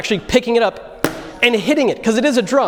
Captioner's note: bang